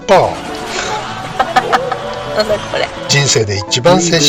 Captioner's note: laughs